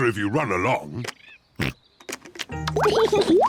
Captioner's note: oinks; laughs